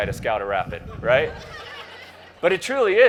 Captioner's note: crowd laughs